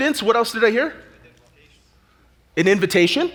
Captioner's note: audience chatter